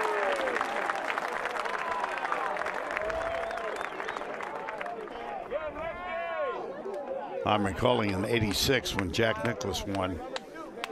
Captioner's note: cheers and applause